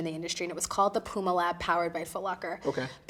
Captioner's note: none